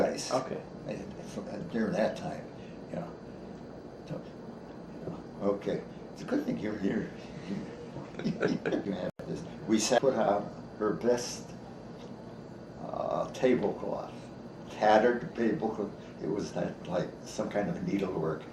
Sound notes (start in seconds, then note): 7.4 chuckles